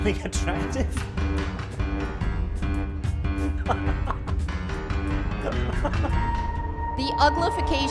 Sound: evil Laugh

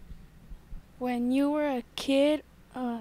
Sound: voiceover

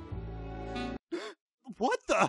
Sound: gasp

